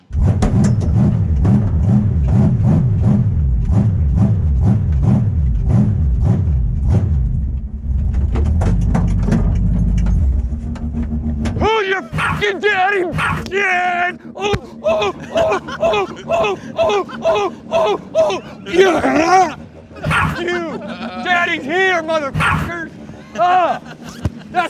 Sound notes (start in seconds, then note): 0.2 engine revving rhythmically; 12.0 Mochi barks twice; 14.5 shouting; 20.0 Mochi barks; 20.8 everyone laughing; 22.3 Mochi barks